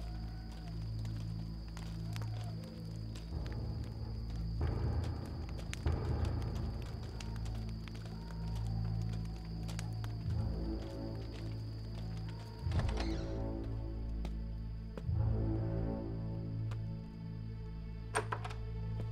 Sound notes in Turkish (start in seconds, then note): 12.7 Kapı açılma sesi; 12.7 Kapı gıcırtısı sesi; 18.1 Kapı açılma sesi